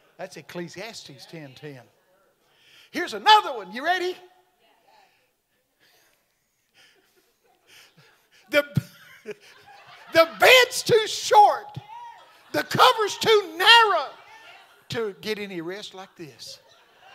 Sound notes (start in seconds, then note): 6.1 laughing; 16.1 audience laughing